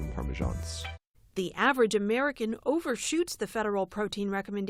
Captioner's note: voice-over